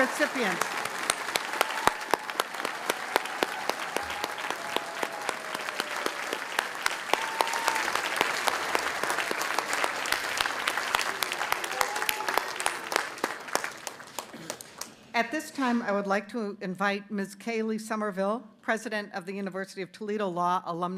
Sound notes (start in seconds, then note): 3.2 cheers and applause